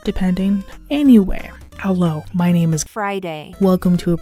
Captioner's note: text-to-speech voice